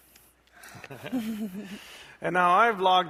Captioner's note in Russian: смеется